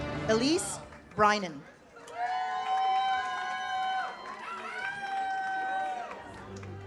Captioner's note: audience cheers